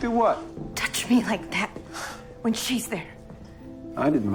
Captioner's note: voiceover